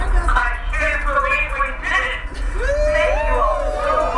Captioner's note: cheers